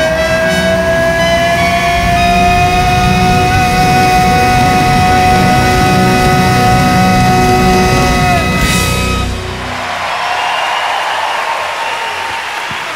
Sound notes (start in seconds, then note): 2.4 audience applauding; 2.4 audience cheering